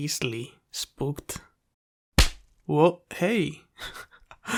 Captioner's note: smacking sound